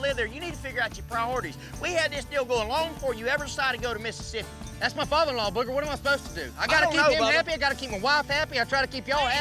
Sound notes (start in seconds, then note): 4.7 angrily shouts